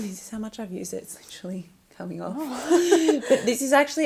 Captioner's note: laughs